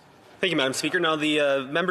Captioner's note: speaking French